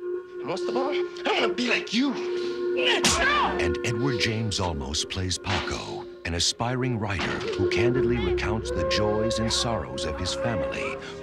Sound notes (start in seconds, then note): 2.7 yells